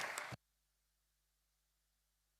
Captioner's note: applause